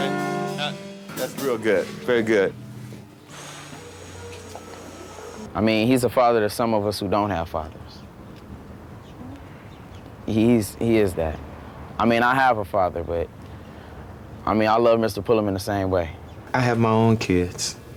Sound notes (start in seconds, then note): 3.6 sighs